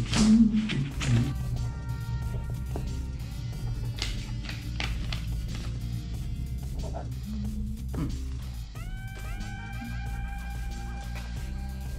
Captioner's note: humming